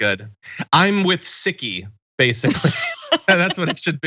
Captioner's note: laugh